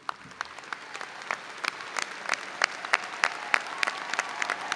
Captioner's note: audience applauding